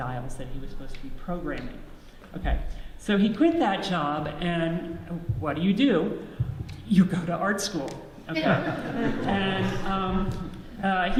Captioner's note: audience laughs